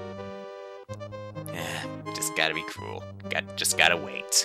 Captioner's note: sigh